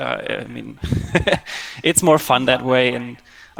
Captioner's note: laughs